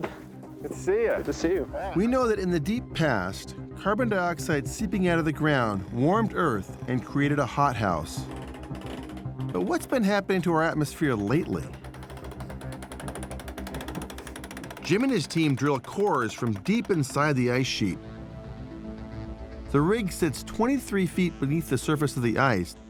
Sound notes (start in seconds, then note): 11.5 machine cranking